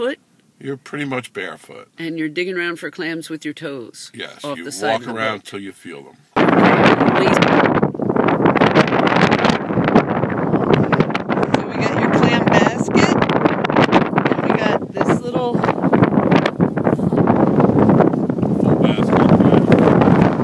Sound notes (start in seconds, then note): 6.3 really loud wind; 6.3 sound of wind